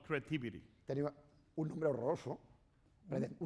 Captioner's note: speaking spanish